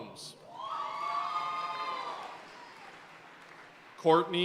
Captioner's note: audience cheering and applauding